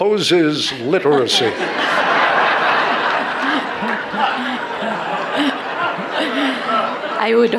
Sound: laughter

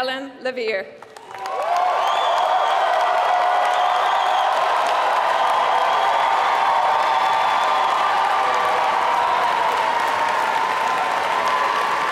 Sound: applause

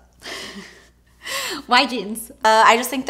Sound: breathy laugh

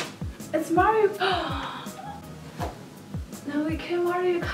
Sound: gasps

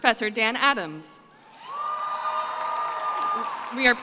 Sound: cheering and applause

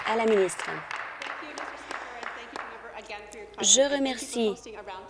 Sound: applause

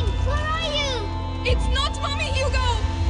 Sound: echoing

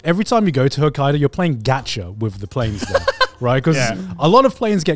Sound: laughing

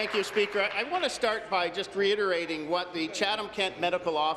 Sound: applause

